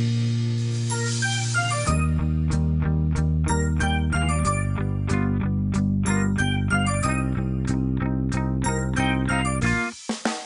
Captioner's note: phone Ringtone